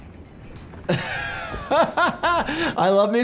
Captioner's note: laughs